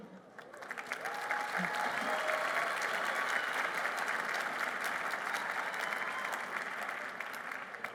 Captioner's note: applause